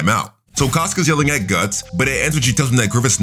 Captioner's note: air whooshing